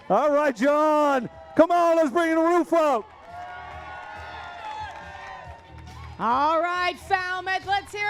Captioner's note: cheering